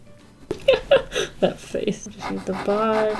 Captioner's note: laughs